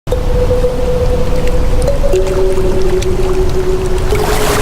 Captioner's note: wind rustles, water laps; wave crashes